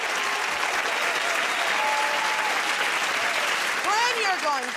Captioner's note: cheers and applause